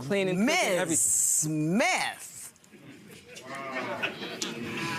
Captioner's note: audience murmuring